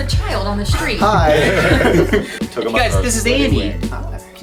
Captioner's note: laughs